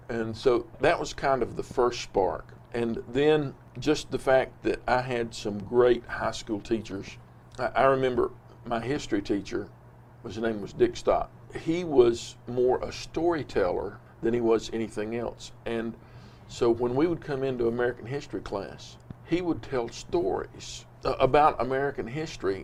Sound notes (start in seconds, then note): none